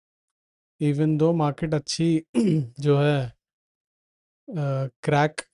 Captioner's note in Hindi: गला साफ़ करने की आवाज़